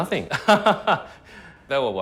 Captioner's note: laughing